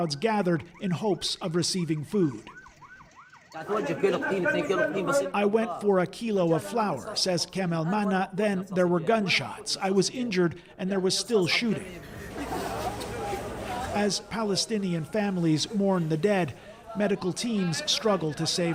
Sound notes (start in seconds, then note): 6.5 speaking alternate language